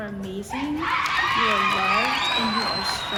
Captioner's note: audience cheering